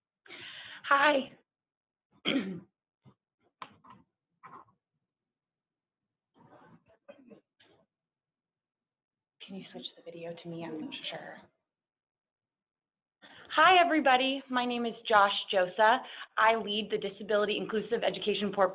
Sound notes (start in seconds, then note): 2.2 clears throat